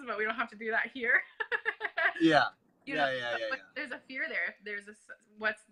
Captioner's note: laughs